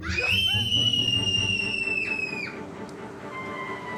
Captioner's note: kids screaming